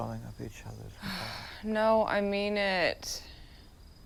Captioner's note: sighs